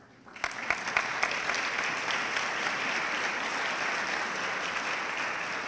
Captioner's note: audience clapping